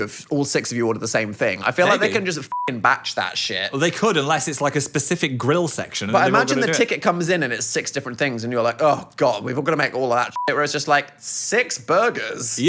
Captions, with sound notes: if all six of you order the same thing? I feel like they can just (beep) batch that shit. - Well, they could, unless it's like a specific grill section. - But imagine the ticket comes in and it's six different things and you're like, oh god, we've all got to make all of that (beep), whereas just like, six burgers?